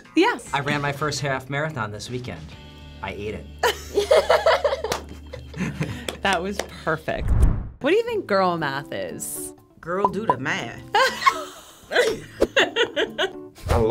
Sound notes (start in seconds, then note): 3.6 laughs; 4.8 claps; 10.5 bubbles pop; 11.0 chuckles